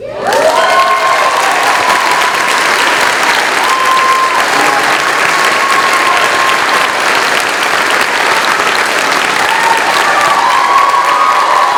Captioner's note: cheering